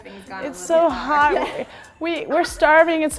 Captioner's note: laughs